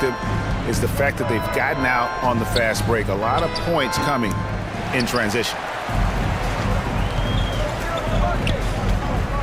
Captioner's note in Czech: Potlesk